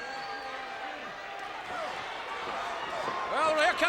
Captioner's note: audience cheers